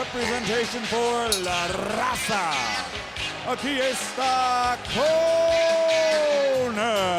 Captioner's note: speaking in foreign language